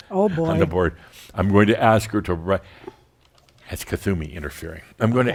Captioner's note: chuckling